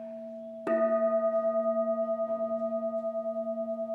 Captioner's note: gong sounds